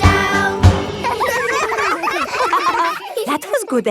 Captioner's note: all giggling